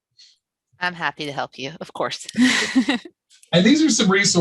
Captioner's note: laughter